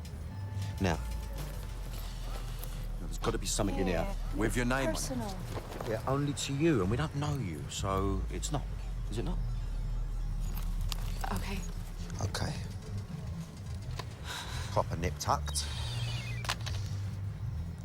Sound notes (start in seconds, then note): 13.5 sighs; 15.8 cell phone beeping